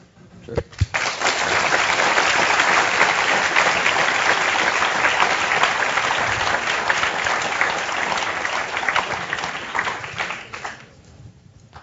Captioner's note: applause